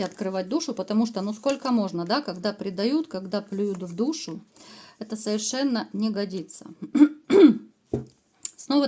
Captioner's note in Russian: откашливается